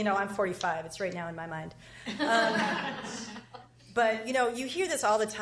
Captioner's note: laughs